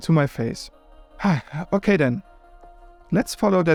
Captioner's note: sigh